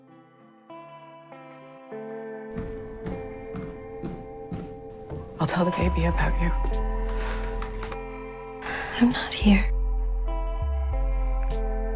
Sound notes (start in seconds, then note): 9.0 voiceover